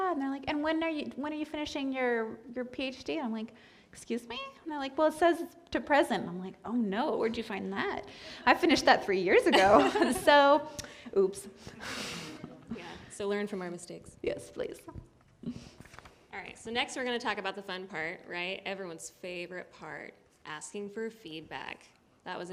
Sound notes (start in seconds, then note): 9.5 laughter